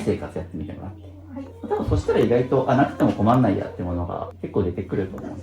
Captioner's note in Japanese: 笑い